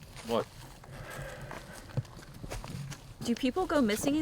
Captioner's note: suspira